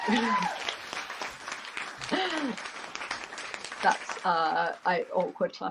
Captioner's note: applause